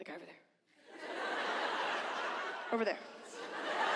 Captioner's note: audience laughs